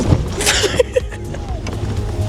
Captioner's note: laugh